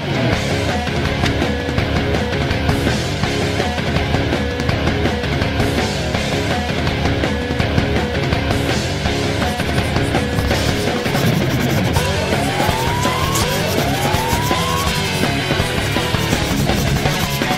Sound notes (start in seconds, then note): 0.2 rock music; 9.4 pen scribbling; 12.3 rock music